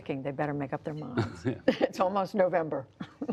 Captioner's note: laughter